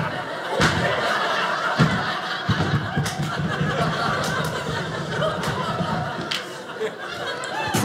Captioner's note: audience laughing